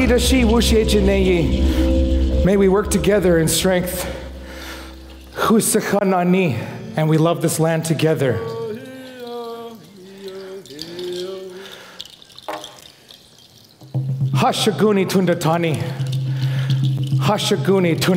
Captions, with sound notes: (foreign speaking) May we work together in strength. (foreign speaking) And we love this land together. (foreign vocalizing) (foreign speaking)